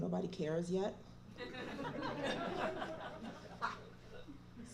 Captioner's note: laughter